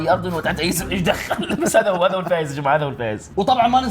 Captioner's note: laughs